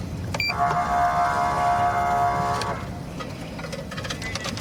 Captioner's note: horn blaring